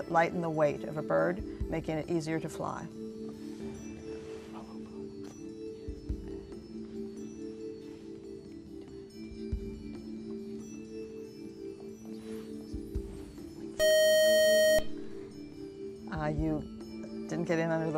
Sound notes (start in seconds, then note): 13.8 buzzer